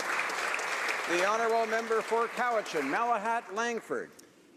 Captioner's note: applause